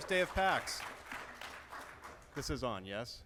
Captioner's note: applause